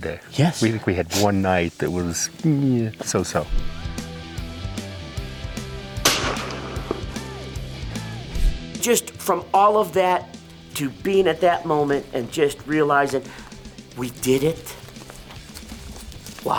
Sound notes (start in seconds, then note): 6.0 gun firing; 6.9 upbeat rock music; 14.6 dirt crunching